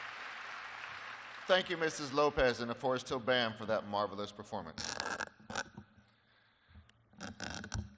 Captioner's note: applause